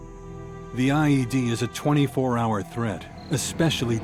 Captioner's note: voiceover